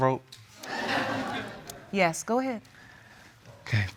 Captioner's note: audience laughing